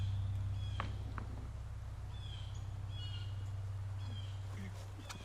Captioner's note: car tire thudding